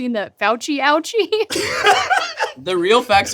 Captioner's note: laughing